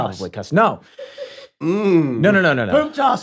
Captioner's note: laughs